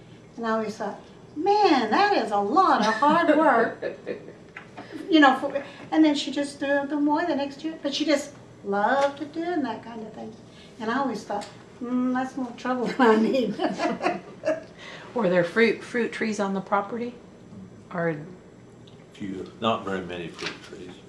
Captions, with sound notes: again. I always thought, “Man, that is a lot of hard work!” (Laughter) And then she just threw them away the next year, because she just loved to can that kind of thing. And I always thought, “That’s more trouble than I need.” (Laughs) Were there fruit trees on the property? A few. Not very many fruit trees.